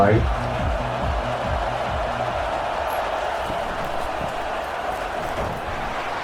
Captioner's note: crowd Noises